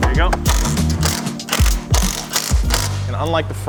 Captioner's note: socket grinding